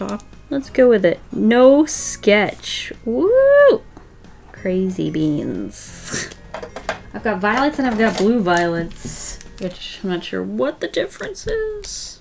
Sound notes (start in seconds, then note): none